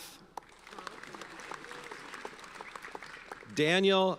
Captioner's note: audience applauds